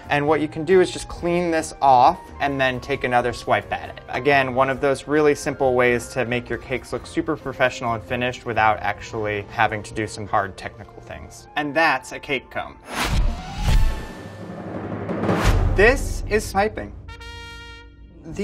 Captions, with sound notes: and what you can do is just clean this off and then take another swipe at it. Again one of those really simple ways to make your cakes look super professional and finished, without actually having to do some hard technical things. And that's a cake comb. [whooshing] [drum rolls] This is pipping. [trumpet blares]